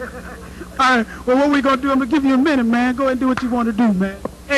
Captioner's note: laugh